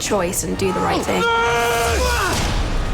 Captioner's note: both yell